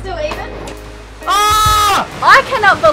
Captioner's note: shouts